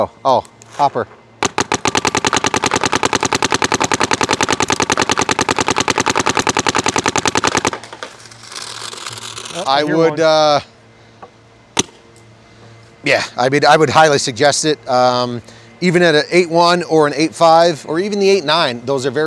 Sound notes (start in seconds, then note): 1.4 paintball gun shooting rapidly